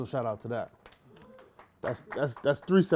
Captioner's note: applause